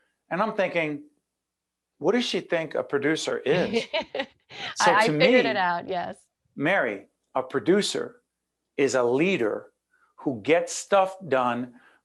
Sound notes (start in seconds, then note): 4.6 laughing